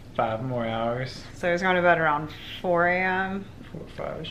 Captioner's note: quietly